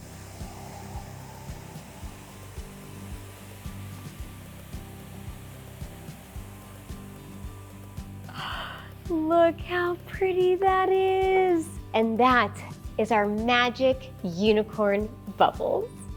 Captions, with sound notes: [bubbles foaming] [gasps] Look how pretty that is. And that is our magic unicorn bubbles.